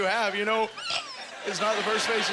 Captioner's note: gasp